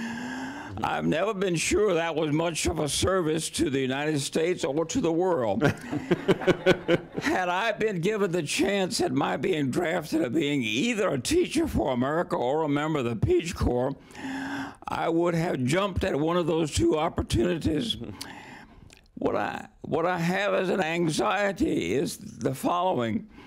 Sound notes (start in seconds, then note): 5.6 laughter